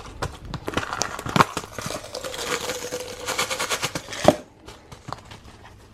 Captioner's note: pills rattling